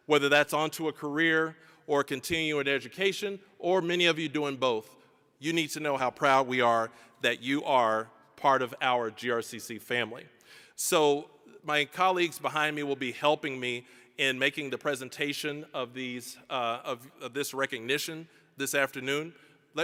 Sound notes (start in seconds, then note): none